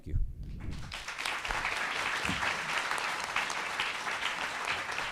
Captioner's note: attendees applauding